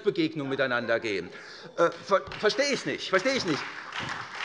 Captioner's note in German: Beifall SPD und vereinzelt Freie Demokraten